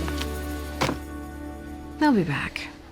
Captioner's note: book thuds